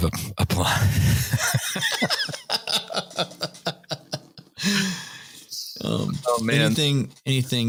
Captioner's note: laughter